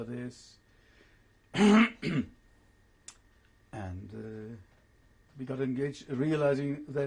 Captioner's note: pauses for 3 seconds